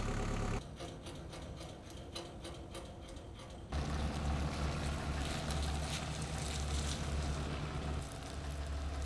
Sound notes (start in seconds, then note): 3.6 engine rumbles